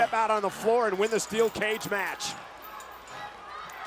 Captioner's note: chain rattling; crowd shouting